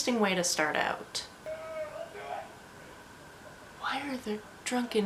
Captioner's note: happy drunk screaming outside